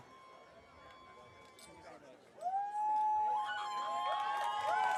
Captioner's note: audience cheering